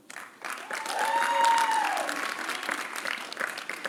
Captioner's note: applause